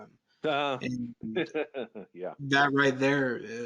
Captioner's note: laughs